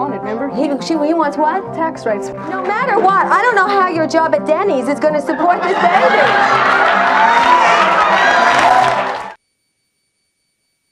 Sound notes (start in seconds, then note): 5.1 audience laughs and applauds